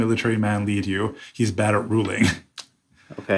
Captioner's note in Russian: смеется